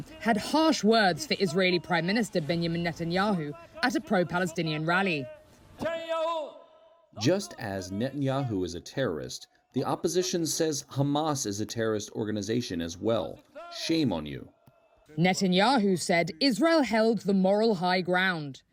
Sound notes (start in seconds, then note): 8.3 through translator